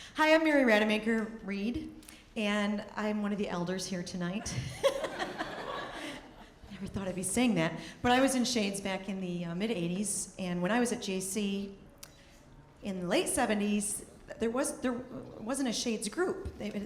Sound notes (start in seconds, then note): 4.7 audience laughing